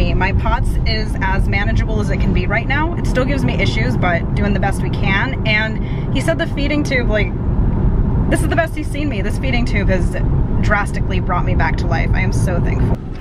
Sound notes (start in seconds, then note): none